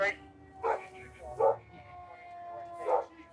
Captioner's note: dog barks